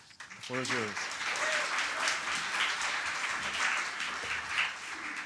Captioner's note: applause